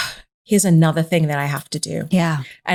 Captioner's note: sighs